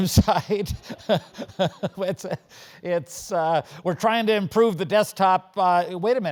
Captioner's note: laugh